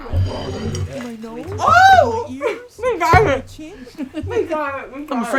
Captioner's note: screams as she DROPS THE GENDERSWAP PIZZA ROLLS